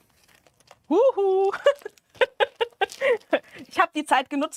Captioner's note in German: gelächter